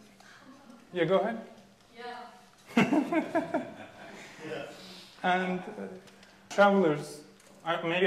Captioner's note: lauging